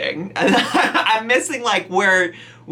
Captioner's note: laughs